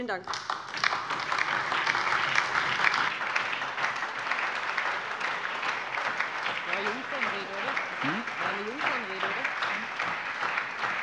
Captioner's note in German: Lebhafter Beifall DIE LINKE, Beifall BÜNDNIS 90/DIE GRÜNEN und SPD